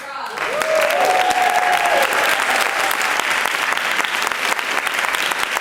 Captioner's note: applause